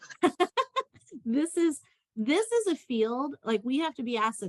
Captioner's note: laughter